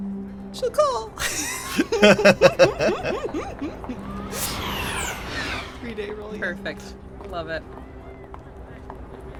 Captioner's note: EVERYONE laughs